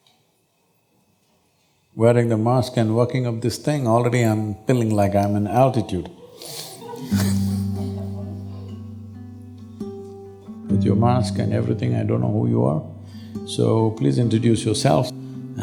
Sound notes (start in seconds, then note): 6.0 laughter